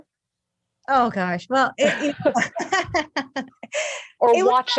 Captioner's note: laughing